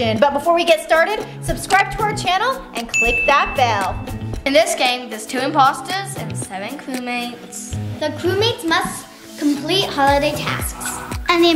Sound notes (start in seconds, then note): 2.9 ding